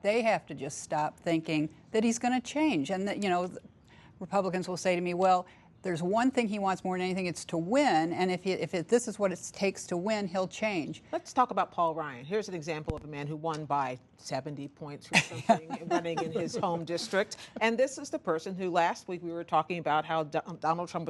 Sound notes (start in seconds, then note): 15.1 laughter